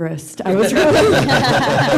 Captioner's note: laughter